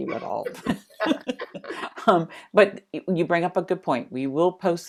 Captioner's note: chuckling